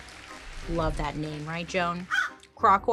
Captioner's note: Joan caws